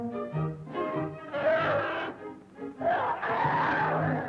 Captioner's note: snarling